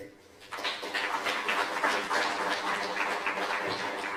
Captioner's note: applause